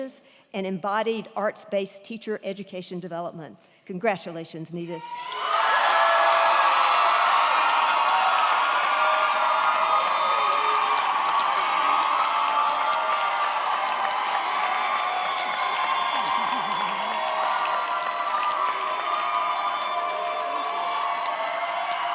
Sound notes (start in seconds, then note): 5.2 crowd cheering; 5.2 crowd clapping